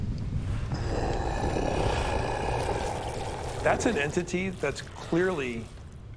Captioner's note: snarling